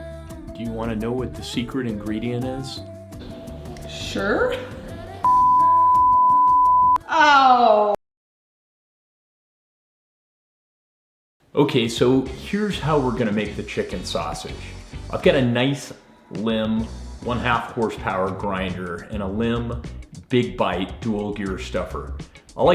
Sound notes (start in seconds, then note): 5.2 beep; 14.3 upbeat music begins